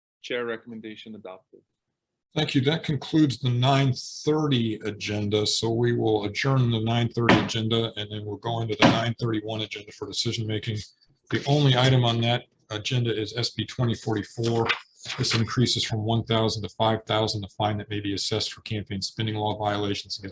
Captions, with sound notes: Chair recommendation adopted. - Thank you, that concludes the 9:30 agenda. So we will adjourn the 9:30 agenda. (gavel pounding) And then we'll go into the 9:31 agenda (gavel pounding) for decision making. The only item on that agenda is SB2044, this increases from 1,000 to 5,000 the fine that may be assessed for campaign spending law violations